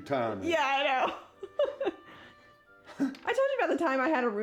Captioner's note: laughs